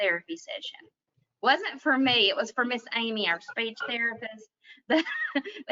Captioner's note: chuckles